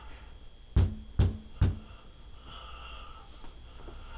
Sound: knocking

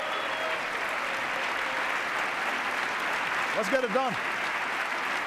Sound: cheers, applause

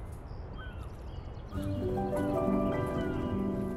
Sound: distant birds squawking; peaceful music

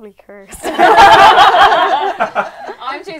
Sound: laughter

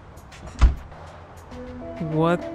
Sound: door opens; door closes

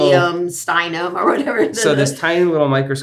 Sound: laughs

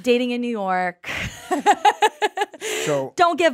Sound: Liz laughs

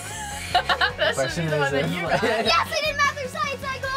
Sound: laughs

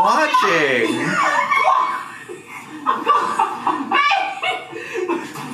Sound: both laughing

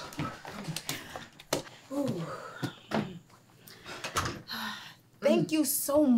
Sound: exasperated Breathing

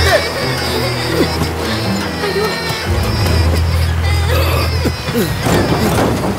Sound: banging on van door and window

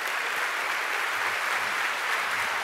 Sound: applause

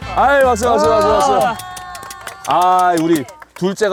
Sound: tries to smooth it over with applause

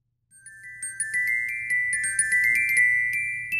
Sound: chimes

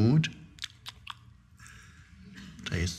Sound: Eckhart smacking lips

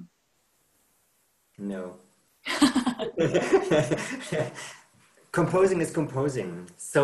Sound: laughs

